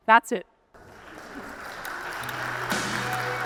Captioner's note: attendees applauding